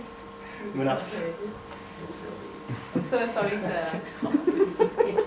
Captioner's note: audience laughter